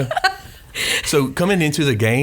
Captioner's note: laughs